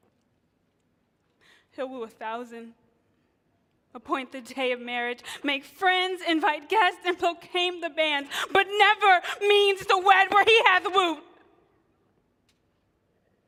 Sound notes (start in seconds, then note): none